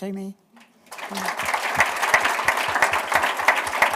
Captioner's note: applause